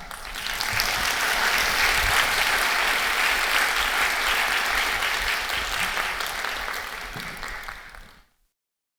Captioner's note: applause